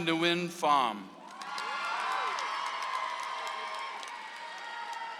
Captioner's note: audience applauds